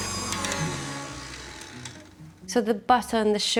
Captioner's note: mixer stops